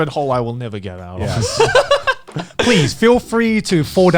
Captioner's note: Joey laughing